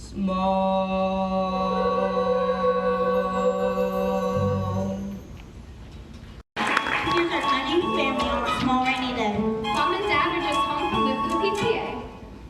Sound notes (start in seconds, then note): 5.1 song ends; 6.5 applause